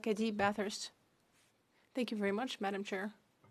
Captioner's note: speaking French